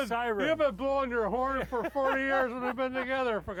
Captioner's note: laughing